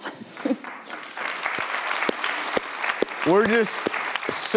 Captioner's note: audience applauds